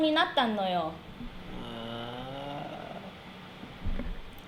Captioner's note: moans